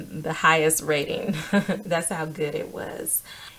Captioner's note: laughs